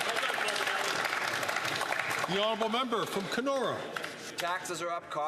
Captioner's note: some Applause